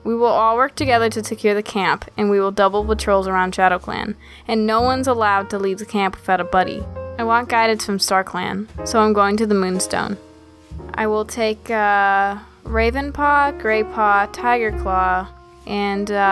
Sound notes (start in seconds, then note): none